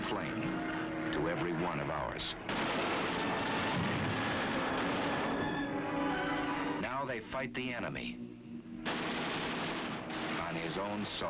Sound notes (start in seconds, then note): 4.4 plane explodes